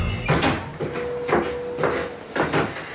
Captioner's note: door slams; footsteps thumping